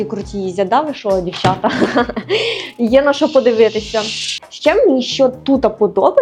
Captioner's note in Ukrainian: сміх